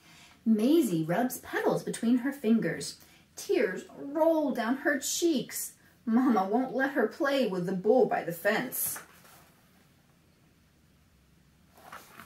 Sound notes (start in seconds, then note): none